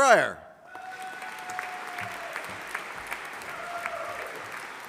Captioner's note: audience applauding